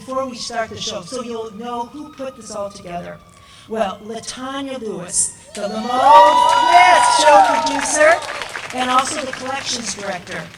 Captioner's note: applause